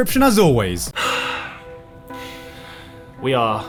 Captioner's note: sighing